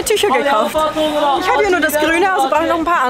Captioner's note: merchant calls in the background